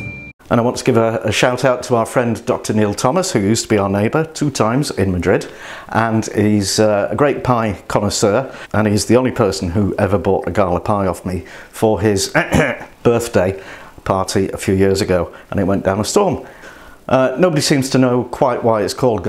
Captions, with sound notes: And I want to give a shout out to our friend, Dr Neil Thomas, who used to be our neighbour - two times - in Madrid. And he's a great pie connoisseur, and he's the only person who ever bought a Gala Pie off me, for his (Coughs!) birthday party, a few years ago, and it went down a storm. No-one seems to know quite why it's called